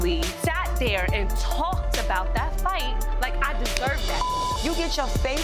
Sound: beep

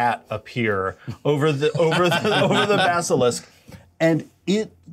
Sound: co-hosts laughing

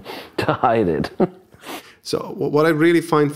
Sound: laughs

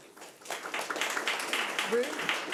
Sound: audience clapping

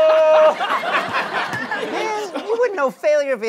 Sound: laughs

